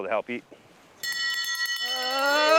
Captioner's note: bell rings; crowd cheers